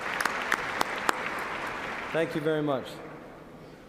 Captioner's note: cheers and applause